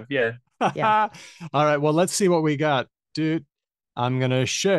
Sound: laughs

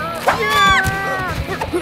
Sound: screaming

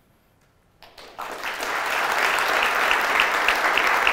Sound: applause

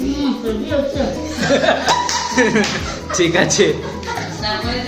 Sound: laughing

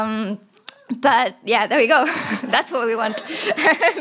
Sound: laughs

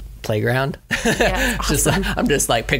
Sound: laughs

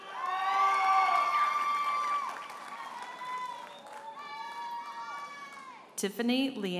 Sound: audience members holler and applaud

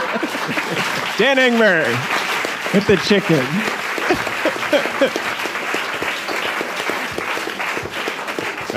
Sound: applause

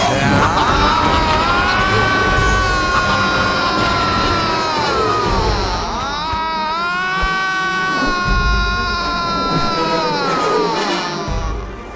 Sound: Kumbhakarna groans

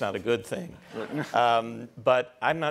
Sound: laughter

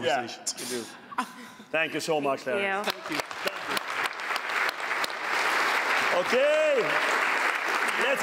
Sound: applause

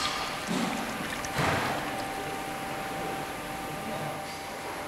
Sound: rumbling, clattering in the background

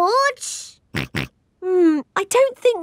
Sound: snorts

